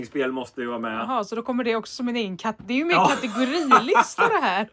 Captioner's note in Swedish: skratt